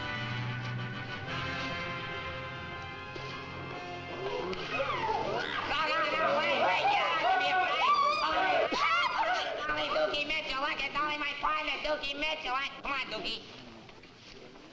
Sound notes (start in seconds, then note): 4.0 people gasping; 4.2 people screaming; 6.9 speaker drowned out by screaming